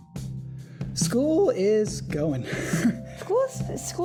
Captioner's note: chuckle